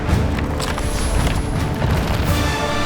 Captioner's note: intense music; dice clattering; intense music